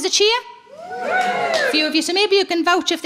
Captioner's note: crowd cheering